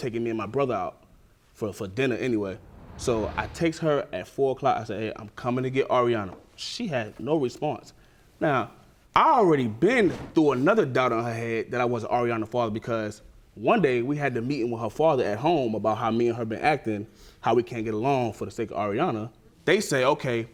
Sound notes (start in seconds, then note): none